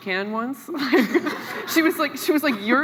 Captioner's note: laughs